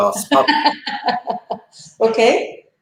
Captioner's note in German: lacht